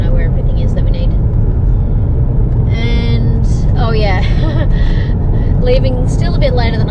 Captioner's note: chuckles